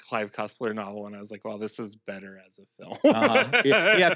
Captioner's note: laughs